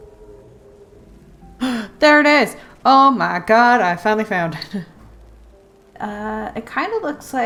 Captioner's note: gasp